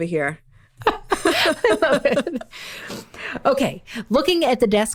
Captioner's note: laughing